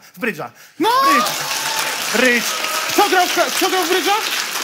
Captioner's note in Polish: oklaski publiczności